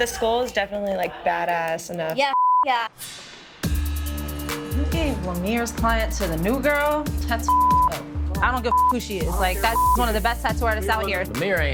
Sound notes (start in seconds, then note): 2.2 beep; 3.8 hip-hop music; 7.4 beep; 9.6 beep